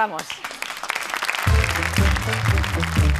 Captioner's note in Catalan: aplaudiments